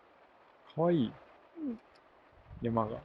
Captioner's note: confused